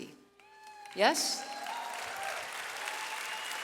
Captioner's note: audience cheers